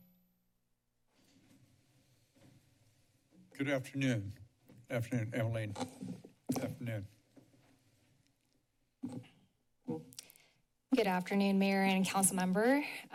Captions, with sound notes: [silence] - Good afternoon. Good afternoon, Eileen. Good afternoon. [silence] - Good afternoon, Mayor and council member.